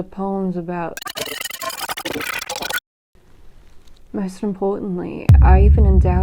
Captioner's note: glitch garble